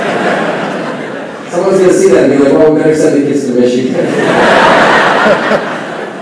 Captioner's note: laughing